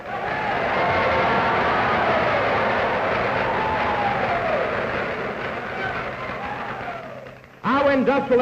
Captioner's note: cheers, applause